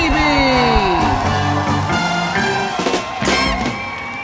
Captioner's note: crowd cheering